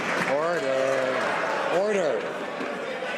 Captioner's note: some Applause